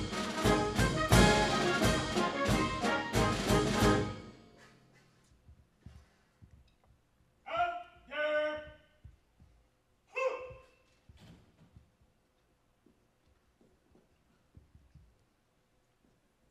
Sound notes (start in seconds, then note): 8.0 marine shouting orders